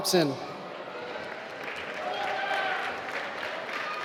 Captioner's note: applause